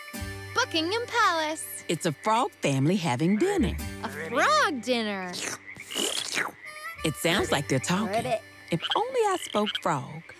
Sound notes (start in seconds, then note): 5.3 frogs croaking; 5.3 slurping